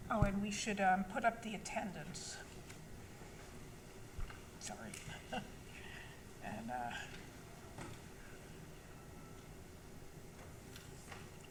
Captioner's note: laughs